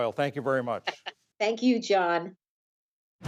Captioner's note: laughter